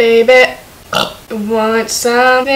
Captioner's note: burp